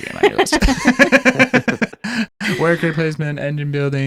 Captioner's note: laughing